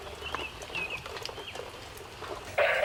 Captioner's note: birds chirping; rain trickling; coughing on baby monitor